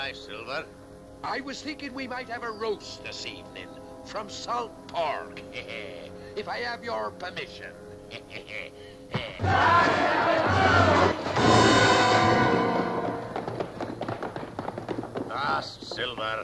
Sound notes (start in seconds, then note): 9.3 anticipatory music; 9.4 screaming